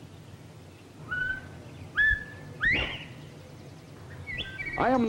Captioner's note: bobwhite call